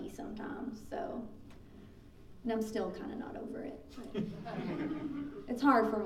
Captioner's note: laughing